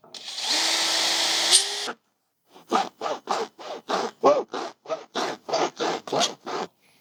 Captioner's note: drill whirring